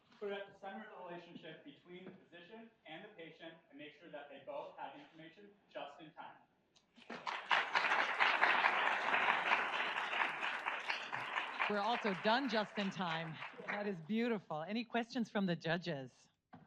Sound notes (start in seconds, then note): 7.0 audience applauds